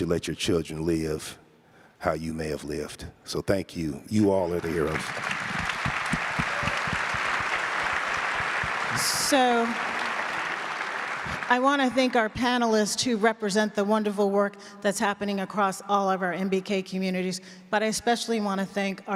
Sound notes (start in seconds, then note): 4.4 audience applauds